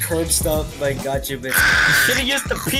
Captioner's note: screeches